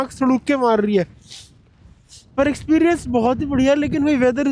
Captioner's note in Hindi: नाक से की जाने वाली आवाज़